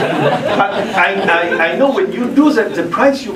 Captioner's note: laugh